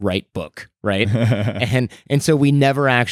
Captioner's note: laughs